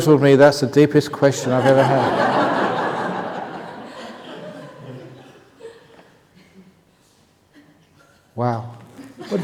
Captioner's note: laughter